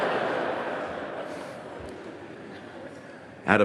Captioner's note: laughter